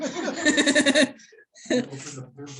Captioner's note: laughter